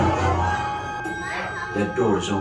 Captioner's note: elevator Ding